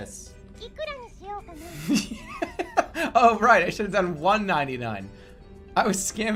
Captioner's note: bursts out laughing